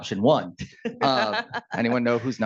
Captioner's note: laughing